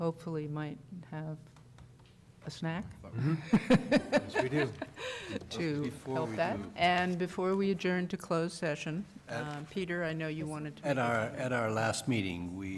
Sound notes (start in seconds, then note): 3.2 laughter